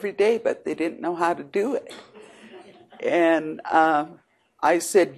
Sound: audience chuckles

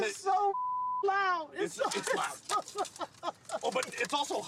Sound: laughing

